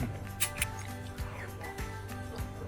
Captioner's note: eating